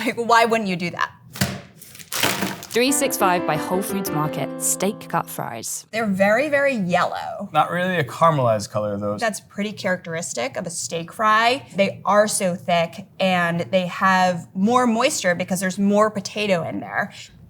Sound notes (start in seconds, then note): 1.3 fries pack thudding; 1.8 plastic crinkling